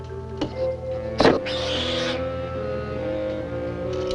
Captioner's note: cat Squeals